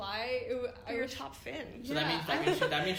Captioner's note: laughs